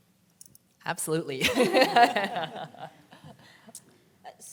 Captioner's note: laughing